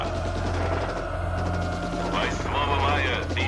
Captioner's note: sounds of machine gun fire